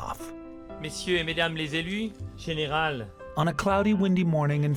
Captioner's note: speaking foreign